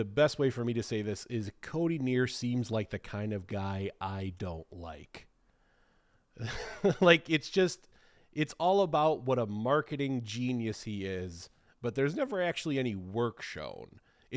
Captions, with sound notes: I'm trying to find the best way for me to say this is Cody Neer seems like the kind of guy I don't like, (chuckling) like it's just, it's all about what a marketing genius he is, but there's never actually any work shown.